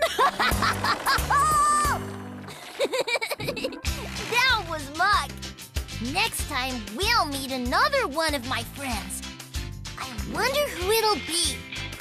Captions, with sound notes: ( Laughs ) ( Giggles ) THAT WAS MUCK. NEXT TIME, WE'LL MEET ANOTHER ONE OF MY FRIENDS. I WONDER WHO IT'LL BE!